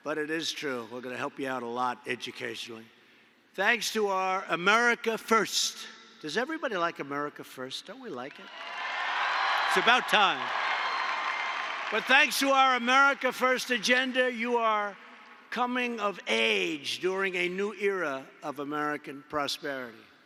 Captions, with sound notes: But it is true, we’re going to help you a lot, educationally. Thanks to our America First — does everybody like American First? Don’t we like it? (Applause.) It’s about time. But thanks to our America First agenda, you are coming of age during a new era of American prosperity.